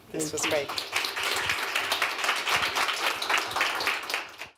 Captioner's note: applause